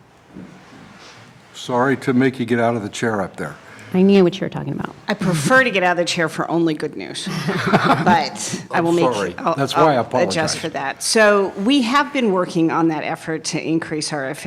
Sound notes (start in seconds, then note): 7.2 laughter